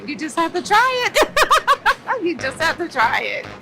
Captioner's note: laughs